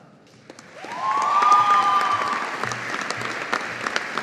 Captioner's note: audience applauding